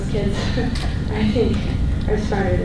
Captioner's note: laughs